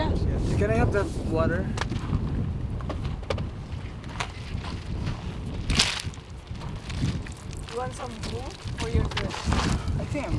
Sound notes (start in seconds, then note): 6.8 gentle sploshing